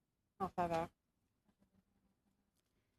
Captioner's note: speaking French